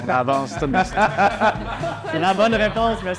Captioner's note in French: rires